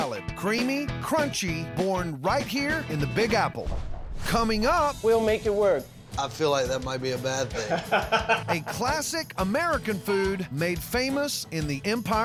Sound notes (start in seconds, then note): 7.4 laughs